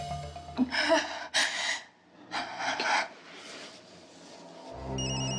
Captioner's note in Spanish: Sollozos